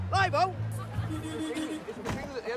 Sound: horn honking

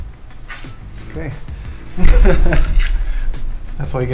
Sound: laughs

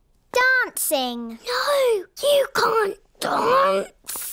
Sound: whispers

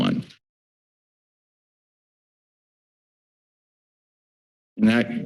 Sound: silence

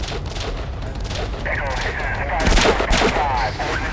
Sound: radio chattering; guns firing

